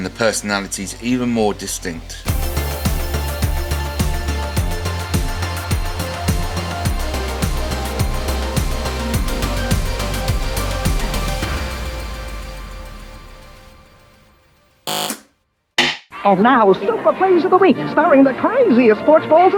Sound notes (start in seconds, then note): 5.8 buzzer